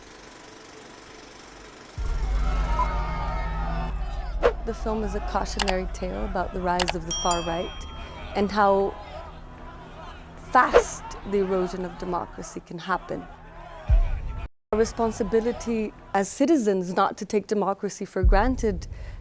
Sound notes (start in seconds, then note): 1.9 sounds of angry crowd; 2.4 shouting and crying out